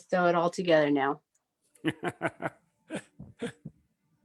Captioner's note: laughs